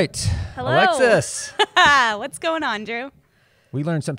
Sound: laughs

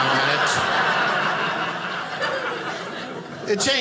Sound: audience laughing

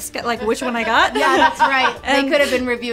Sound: laughs

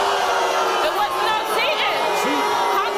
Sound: crowd jeers

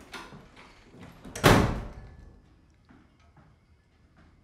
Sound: door slamming

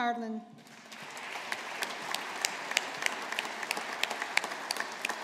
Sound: audience applauding

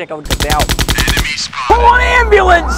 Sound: gun shots

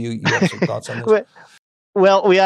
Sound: laughing

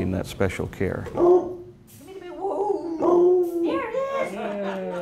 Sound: Smokey barks and howls

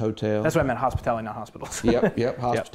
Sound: laughs

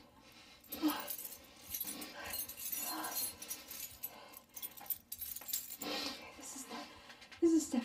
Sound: keys jingling

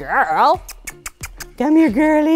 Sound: kissing sounds

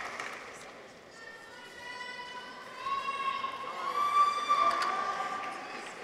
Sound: audience applauds; people cheer; audience members cheer

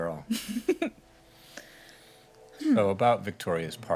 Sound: chortle

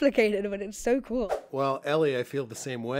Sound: whoosh

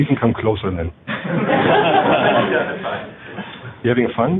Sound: laughter

